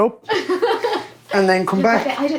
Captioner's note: laughing